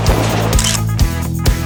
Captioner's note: photo Click